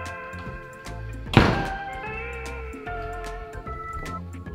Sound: door slams

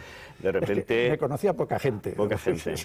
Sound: José Luis ríe

